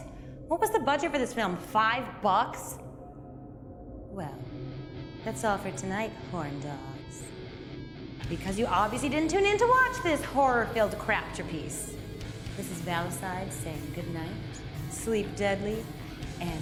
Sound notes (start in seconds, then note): none